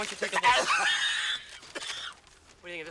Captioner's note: gagging